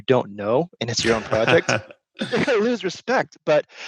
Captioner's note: laughs